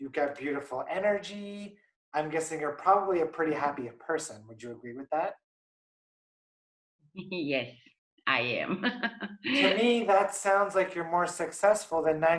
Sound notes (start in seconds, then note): 9.2 laughs